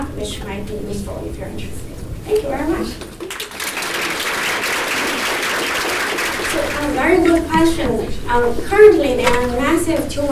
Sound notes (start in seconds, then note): 2.9 audience claps